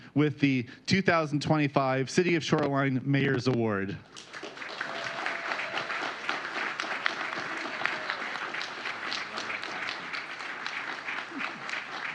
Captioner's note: applause